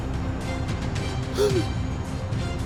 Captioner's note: gasp